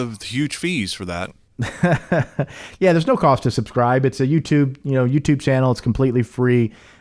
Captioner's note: chuckles